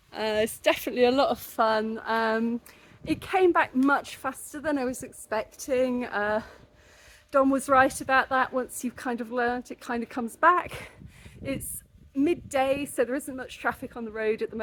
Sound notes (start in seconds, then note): none